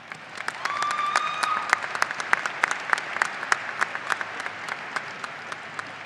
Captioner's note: audience applauding and cheering